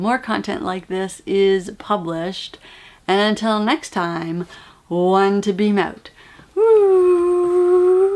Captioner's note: whooo